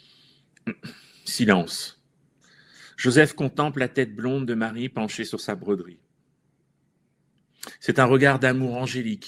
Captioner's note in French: raclement de gorge